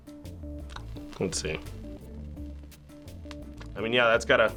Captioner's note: flame crackling softly